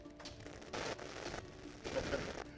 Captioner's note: static buzzing